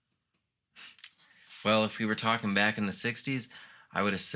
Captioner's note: sniffs